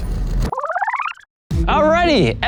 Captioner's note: film roll reeling